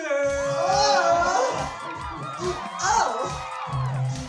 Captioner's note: applause; upbeat music